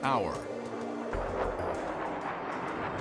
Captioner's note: jet engine noise